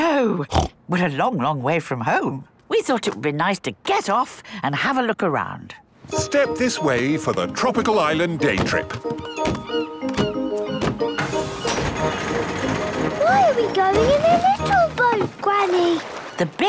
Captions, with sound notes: - No. (snorts) We are a long, long way from home. We thought it would nice to get off and have a look around. - Step this way for the Tropical Island Day Trip! (gulls squawking) - Why are we going in a little boat, Granny?